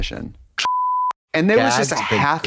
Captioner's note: beep